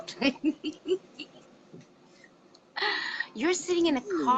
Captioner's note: giggles